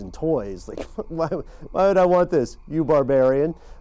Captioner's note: laughs